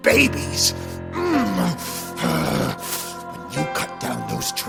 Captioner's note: Bob grunting